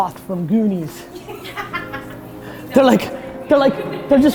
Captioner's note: laughs